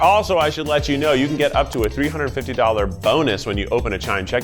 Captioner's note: button clicking